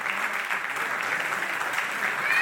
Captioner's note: audience clapping